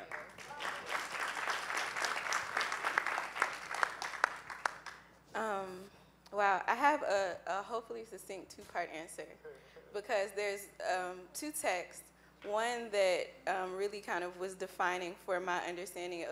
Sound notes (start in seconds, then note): 0.0 applause